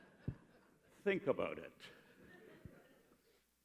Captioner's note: laughter